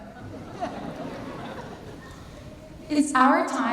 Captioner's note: laughter